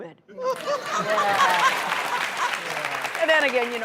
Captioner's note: Vivica laughs; applause